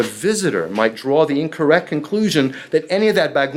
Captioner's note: speaking foreign language